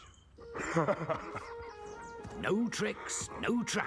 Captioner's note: laughing